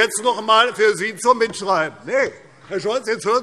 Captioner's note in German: Zuruf